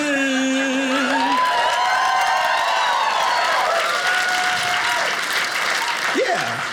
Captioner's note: audience applauding